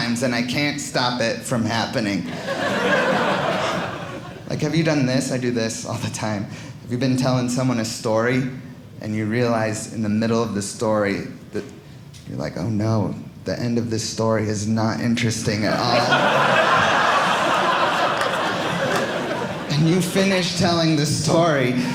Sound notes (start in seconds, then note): 2.2 audience laughing; 15.7 audience laughing